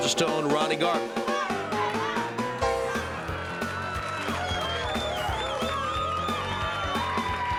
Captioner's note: crowd cheers